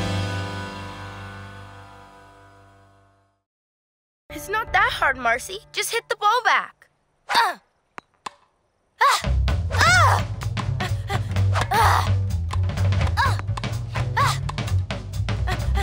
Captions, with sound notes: It's not that hard, Marcie. Just hit the ball back. ( grunting ) ( panting, grunting )